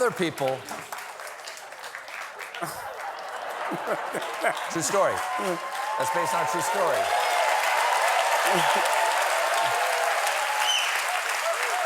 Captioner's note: applause